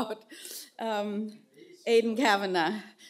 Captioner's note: none